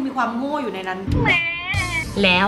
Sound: baby crying

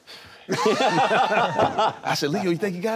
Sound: laughing

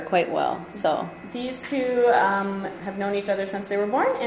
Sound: voiceover

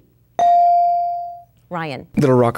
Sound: dinging

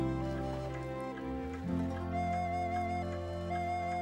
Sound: clock Ticking

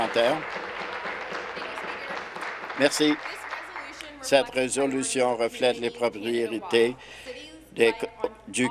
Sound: applause

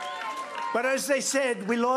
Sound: applause

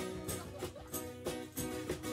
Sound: audience laughing; guitar strumming and bells jingling

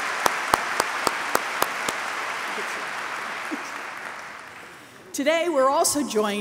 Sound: applause

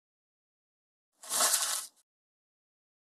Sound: sound of paper

